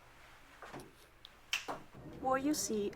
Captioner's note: snaps